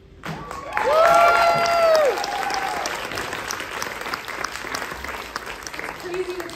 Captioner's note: applause